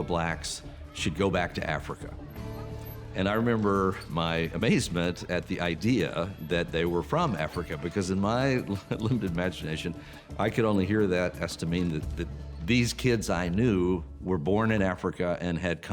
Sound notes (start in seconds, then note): 10.7 chuckling